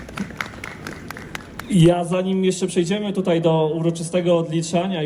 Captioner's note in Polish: Aplauz